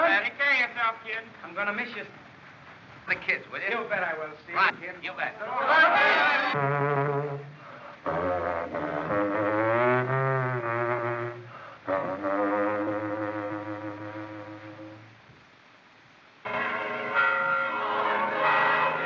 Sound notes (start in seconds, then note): 6.2 horn Blows; 7.4 horn Continues; 16.4 bells Tolling